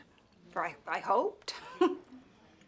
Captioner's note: laughs